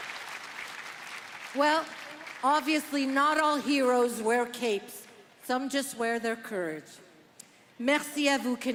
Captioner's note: applause